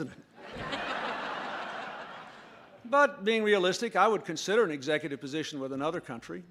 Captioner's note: laughter